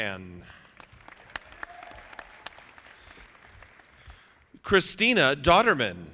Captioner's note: audience clapping